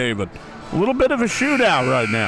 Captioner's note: clock buzzes